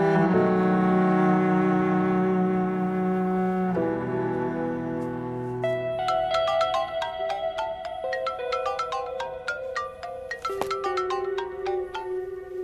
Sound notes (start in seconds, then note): 6.1 mobile ringing-Mehran